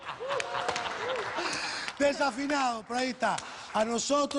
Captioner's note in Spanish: Risas